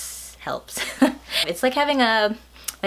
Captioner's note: laughs